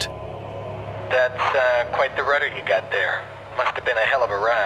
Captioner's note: man Over Radio